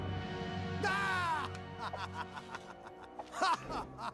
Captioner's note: evil laughter